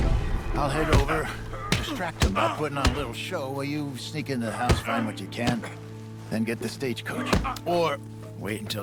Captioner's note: old man ramblings